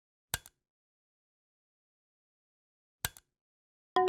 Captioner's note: clicking